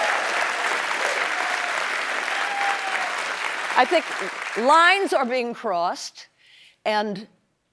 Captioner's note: applause